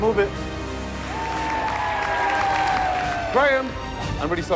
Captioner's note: cheers and applause